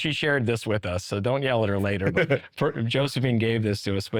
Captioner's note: chuckling